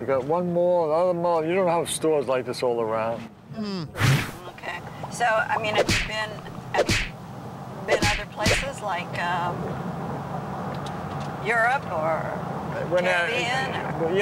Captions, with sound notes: You got one mall, another mall. You don't have stores like this all around. - Okay. So, I mean, have you been other places (thudding) like Europe, or the Caribbean--